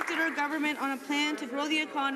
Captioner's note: some Applause